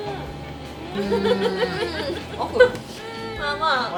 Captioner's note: laughs